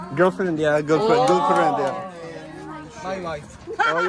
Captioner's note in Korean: 짝짝짝